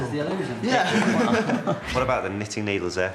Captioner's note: all chuckling